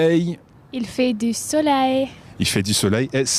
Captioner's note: speaks in foreign language